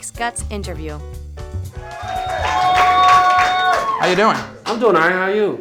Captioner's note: cheering